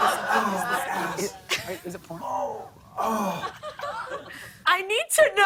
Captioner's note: grunting